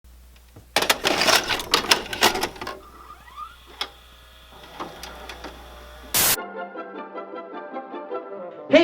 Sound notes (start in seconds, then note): 3.0 VCR machine whirs; 7.0 upbeat music